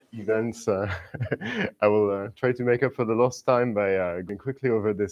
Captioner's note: laughs